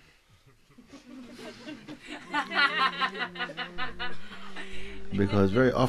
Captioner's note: laughter